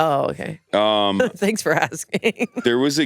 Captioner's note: laughs